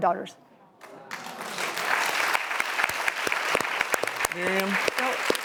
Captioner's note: audience applause